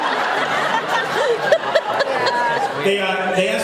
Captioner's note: laughs